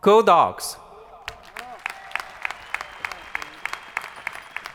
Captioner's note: crowd applauding